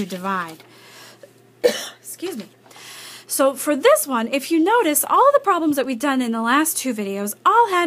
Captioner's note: cough